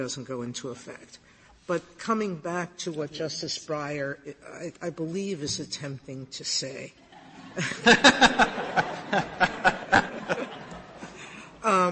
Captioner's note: laughter